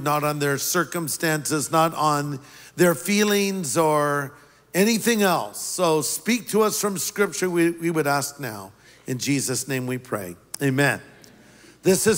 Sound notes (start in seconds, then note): none